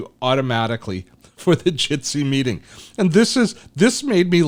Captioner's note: laughs